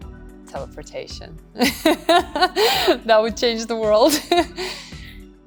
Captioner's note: laughing